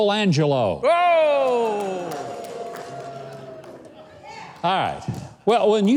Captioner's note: audience cheering